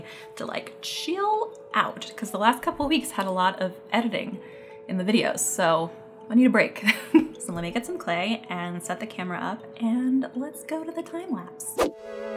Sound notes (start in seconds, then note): 6.8 laughs; 12.2 upbeat music